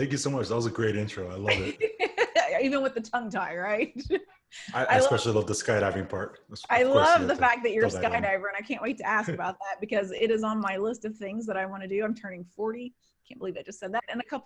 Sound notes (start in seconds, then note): 1.5 laughs; 4.5 laughs